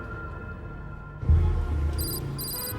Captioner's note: car engines revving; car horns honking